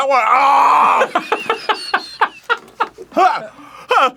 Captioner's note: half wheeze-laughing now